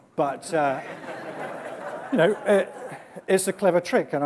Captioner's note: laughter